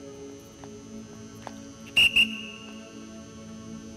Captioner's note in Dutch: fluit